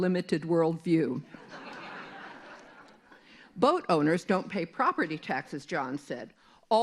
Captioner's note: laughter